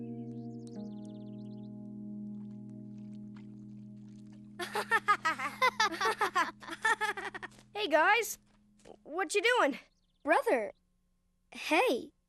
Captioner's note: laughing